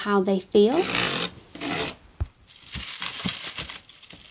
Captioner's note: CD scraping; bubble wrap rustling